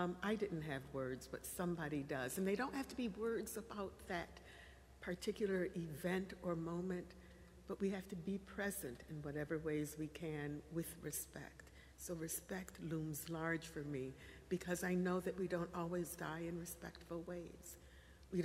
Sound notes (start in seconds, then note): none